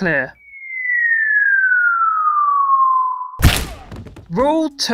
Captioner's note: bone breaking sounds